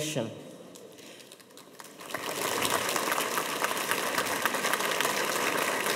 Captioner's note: audience applauding